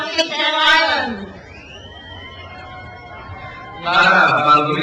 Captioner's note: crowd cheers